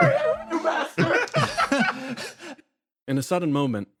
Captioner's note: laughs